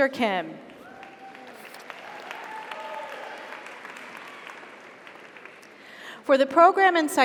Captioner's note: audience applauds; audience cheers